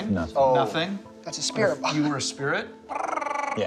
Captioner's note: mimics EMF beeping